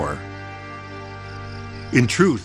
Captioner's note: crickets chirp